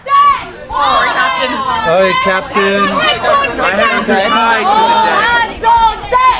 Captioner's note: people chattering